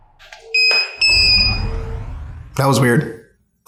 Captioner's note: loud beeping